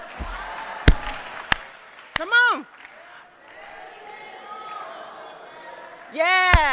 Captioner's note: clapping; people singing